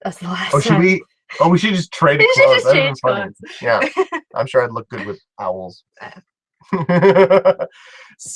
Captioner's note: laugh